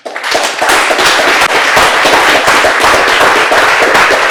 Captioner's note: audience applauding